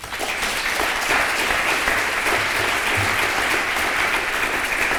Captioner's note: applause